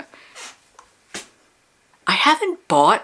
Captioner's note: silence